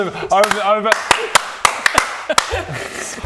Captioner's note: shoooo applause